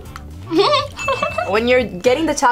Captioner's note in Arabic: يضحك